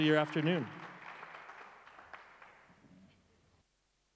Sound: crowd applauds

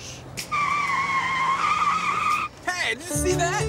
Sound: tires screeching

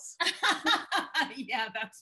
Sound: laughing

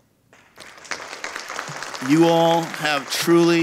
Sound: audience applauding

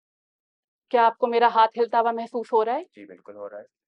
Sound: in Urdu

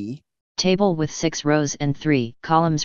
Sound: computer Voice

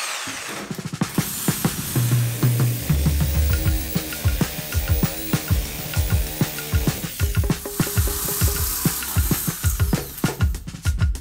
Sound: Hardwired saw-saw being spun up

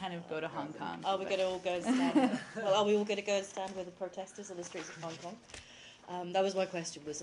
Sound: laughter

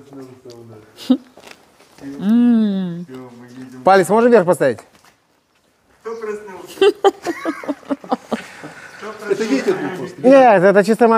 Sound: laugh

